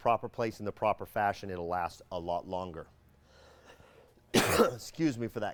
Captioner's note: coughing